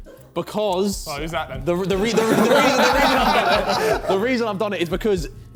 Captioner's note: men laughing